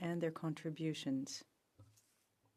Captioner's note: speaking french